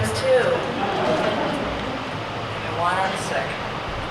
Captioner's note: audience laughs